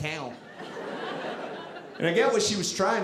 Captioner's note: audience laughing